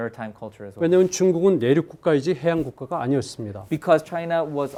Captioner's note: speaking in Korean